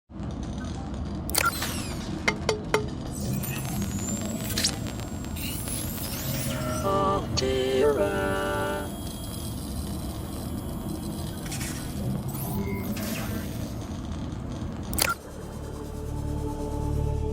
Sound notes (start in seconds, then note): 1.2 introduction sound; 14.2 suspenseful sound